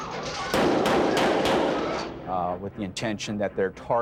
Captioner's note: victims screaming and clamoring; gunfire popping